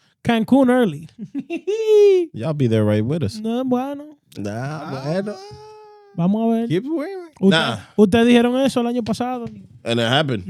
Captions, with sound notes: Cancun early. Y'all be there right with us. (Speaking In Foreign Language) And it happened.